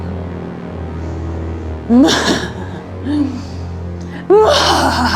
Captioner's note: evil laughter